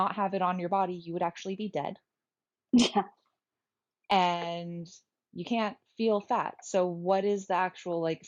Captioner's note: laugh